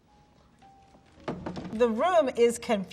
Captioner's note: door slamming